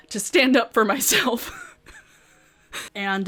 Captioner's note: laughs